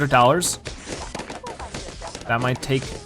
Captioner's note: balloons popping